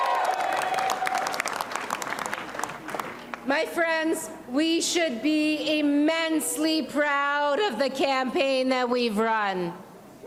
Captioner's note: applause